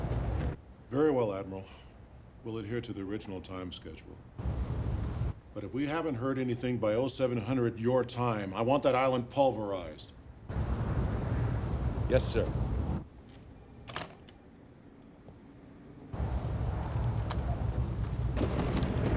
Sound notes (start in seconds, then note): 12.7 footstep